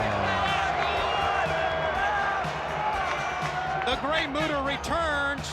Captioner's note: crowd chatter